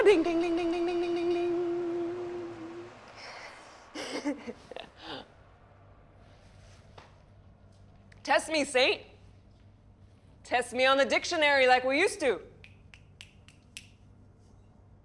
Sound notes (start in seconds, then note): 3.8 laughs